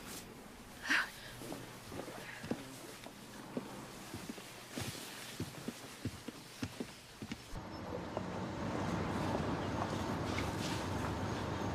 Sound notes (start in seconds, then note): 9.4 traffic